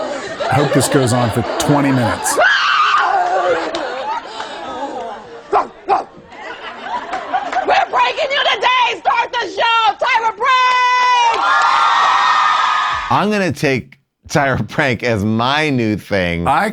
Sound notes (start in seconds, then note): 2.4 audience laughing; 2.4 shouts; 5.5 barking; 6.2 audience laughing; 11.2 audience cheering and applauding